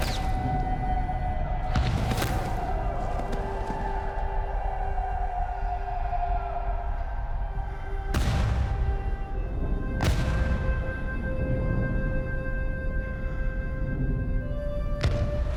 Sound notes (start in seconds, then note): 0.6 men whooping